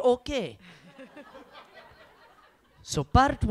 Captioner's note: audience laughs